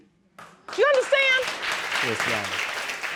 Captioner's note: audience applauding